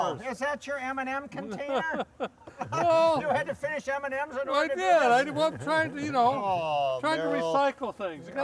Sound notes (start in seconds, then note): 1.3 laughing; 5.1 laughing